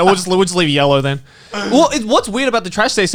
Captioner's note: all laughing